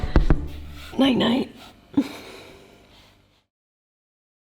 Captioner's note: body thudding; exhales